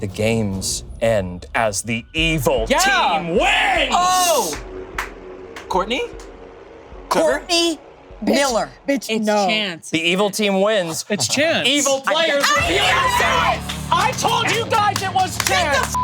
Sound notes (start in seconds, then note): 11.6 group clapping; 11.9 laughing